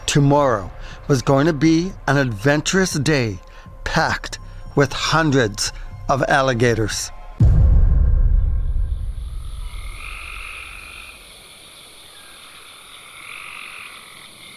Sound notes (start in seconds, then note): 7.4 intense music; 9.4 crickets